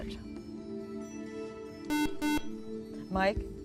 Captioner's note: beep